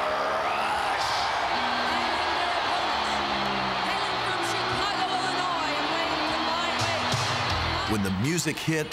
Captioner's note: applause